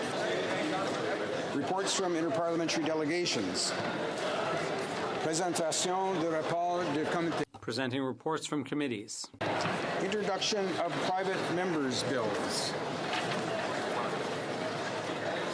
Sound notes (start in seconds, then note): 3.7 speaking French